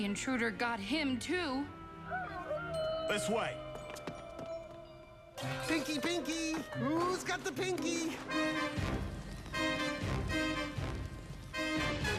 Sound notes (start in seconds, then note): 2.0 howling